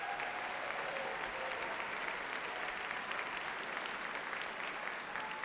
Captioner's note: audience cheers and applauds